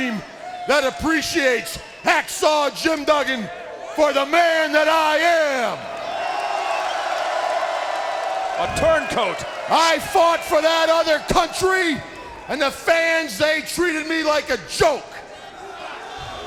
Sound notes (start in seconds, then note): 5.6 audience cheering